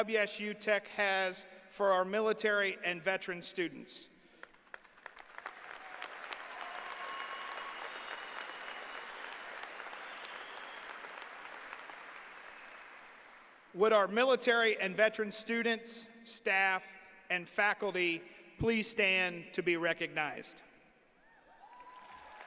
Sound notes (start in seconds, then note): 7.9 applause